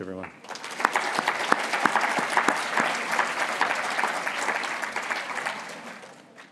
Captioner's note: applause